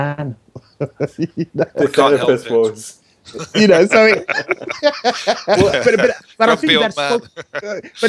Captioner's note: laughing